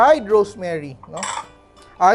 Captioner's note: clink